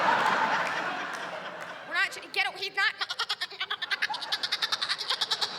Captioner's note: laughter; mimics baaing